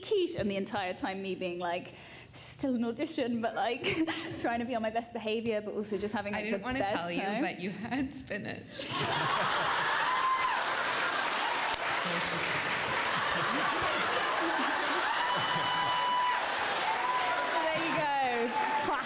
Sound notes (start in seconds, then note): 12.2 whispers